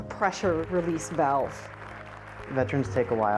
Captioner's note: applause